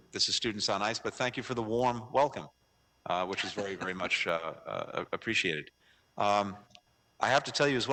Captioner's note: laughter